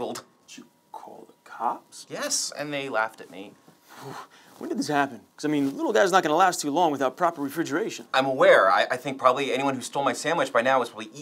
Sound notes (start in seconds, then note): 4.0 breathes out in disbelief